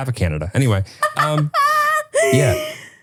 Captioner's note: laughing